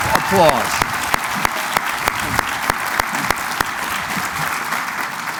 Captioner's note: cheering